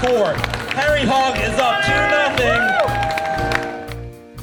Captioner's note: audience applauds